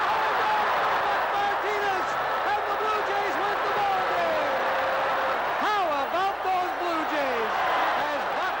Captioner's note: cheers and Applause